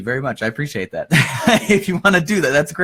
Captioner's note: laughs